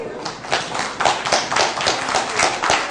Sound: applause

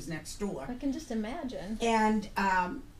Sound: voiceover

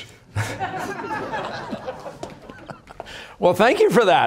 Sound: laughter

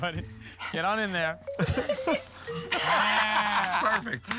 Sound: laughter

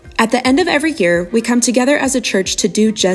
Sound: none

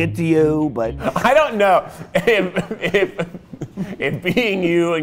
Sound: laughing

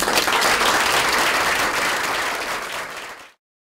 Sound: applause

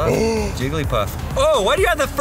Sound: exclaims

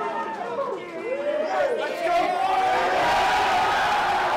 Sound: more cheering

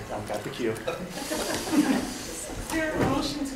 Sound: attendees laughing

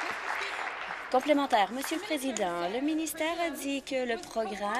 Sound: applause

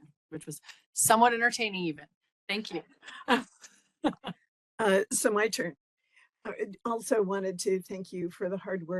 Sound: laughing

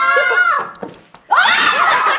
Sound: plopping

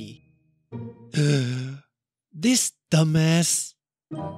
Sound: gasps

